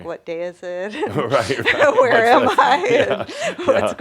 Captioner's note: they laugh